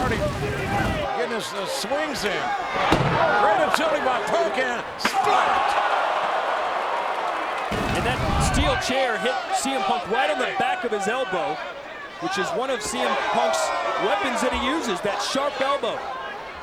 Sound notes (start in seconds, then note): 5.4 audience groans; 5.4 chair thuds